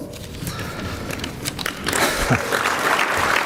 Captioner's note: clapping; switches back to English